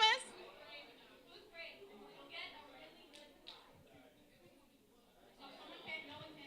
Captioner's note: talking in background